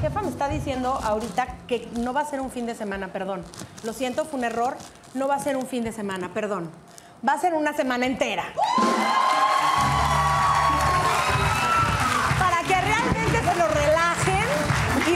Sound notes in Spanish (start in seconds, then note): 9.7 Ovación